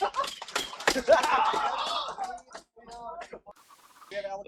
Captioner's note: laughing evilly